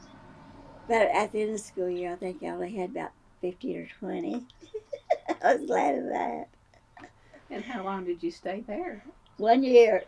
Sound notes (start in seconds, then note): 4.5 laughs